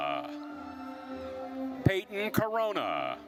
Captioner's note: attendees cheering